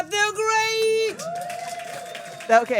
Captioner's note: applause